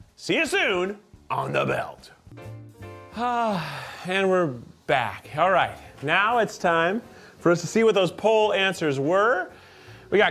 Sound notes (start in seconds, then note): 3.1 sighs